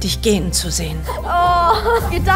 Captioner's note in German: traurig